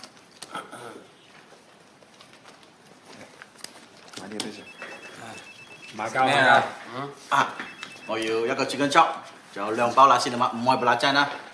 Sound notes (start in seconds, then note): 4.5 mobile phone rings